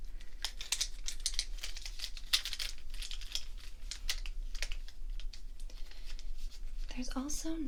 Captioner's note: shuffling markers